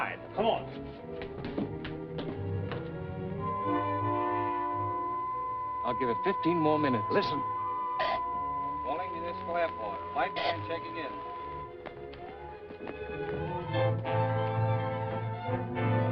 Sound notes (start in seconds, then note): 3.0 beeping; 11.7 suspenseful music